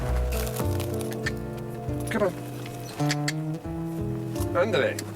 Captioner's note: clicks tongue; Stephen speaks foreign language